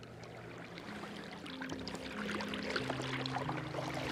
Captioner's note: water rushing